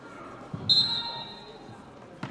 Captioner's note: whistle blows